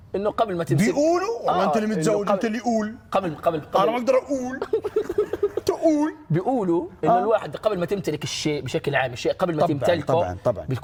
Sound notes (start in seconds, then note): 4.4 giggles; 6.1 Palestinian accent